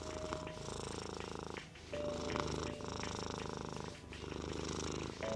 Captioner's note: purring